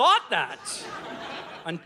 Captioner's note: audience laughing